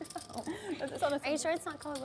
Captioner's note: laughs